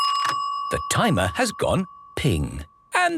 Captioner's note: dinging